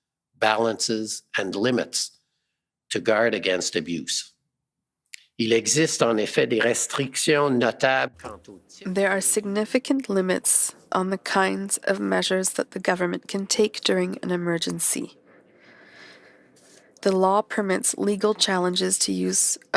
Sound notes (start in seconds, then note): 11.1 speaking French